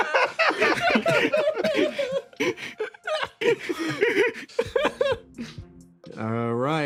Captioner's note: laughing; still laughing